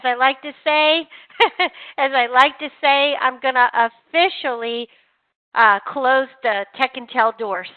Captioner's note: laughs